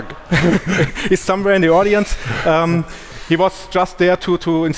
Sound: chuckles

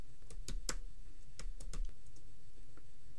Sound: clicking

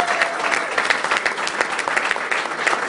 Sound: cheering

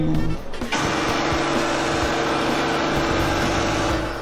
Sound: A mysterious rifle sound interrupts the interview

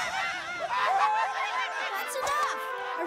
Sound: laughing

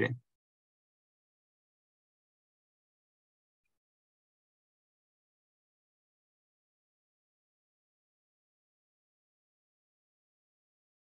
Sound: silence

